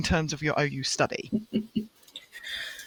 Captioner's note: chuckles